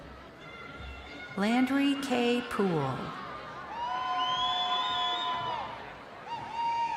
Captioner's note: crowd cheering